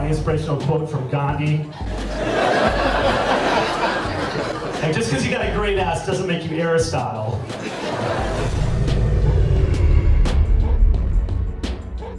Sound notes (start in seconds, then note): 1.7 laughs; 10.1 laughs